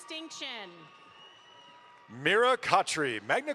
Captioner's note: audience applauds